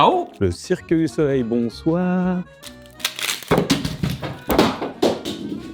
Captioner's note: juggling